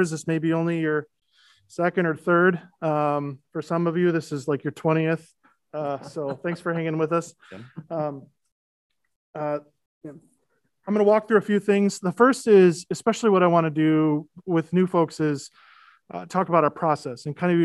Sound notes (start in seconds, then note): 5.8 laughing